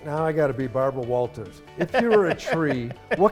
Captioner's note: laughing